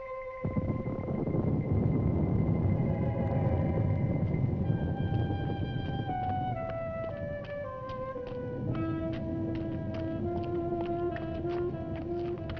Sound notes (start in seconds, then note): 0.9 thunder rumbling